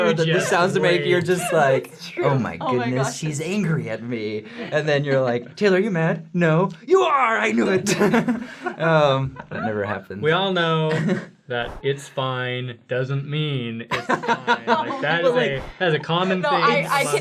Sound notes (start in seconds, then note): 7.6 laughter; 13.9 laughter